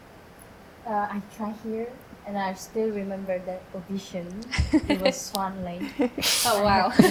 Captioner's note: laughing